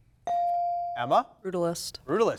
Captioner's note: bell dings